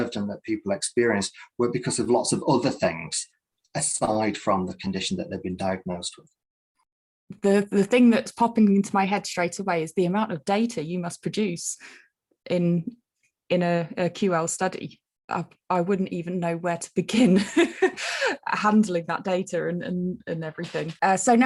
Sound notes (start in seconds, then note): 17.4 chuckling